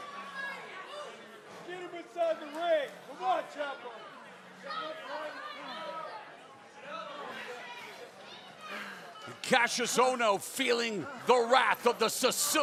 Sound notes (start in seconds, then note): 1.9 crowd chatter